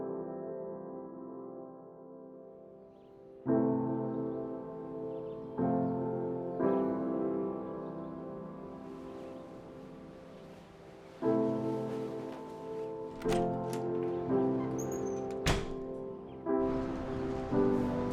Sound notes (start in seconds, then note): 13.0 door opens and closes